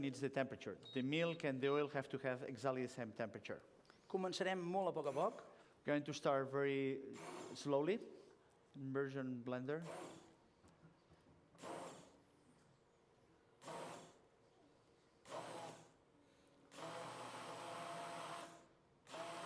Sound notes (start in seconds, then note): 4.7 non-english speech; 9.8 blender whirring